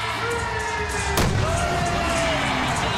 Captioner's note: crowd cheering